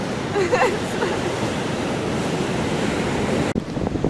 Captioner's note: laughing